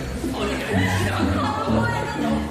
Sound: hahaha

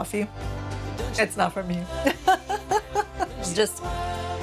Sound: laughs

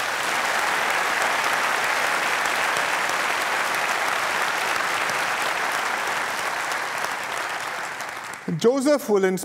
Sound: applause

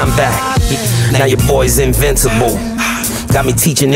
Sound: heavy breathing

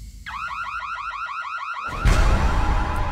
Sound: alarm

